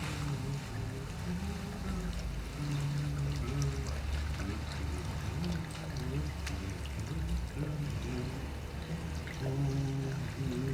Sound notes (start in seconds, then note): 3.3 humming, water splashing